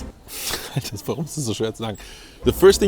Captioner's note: laughs; speaks in German